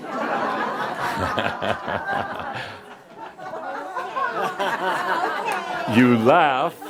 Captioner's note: laughter